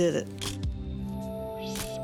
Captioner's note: camera shutter click